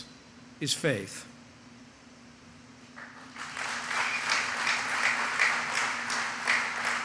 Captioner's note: applause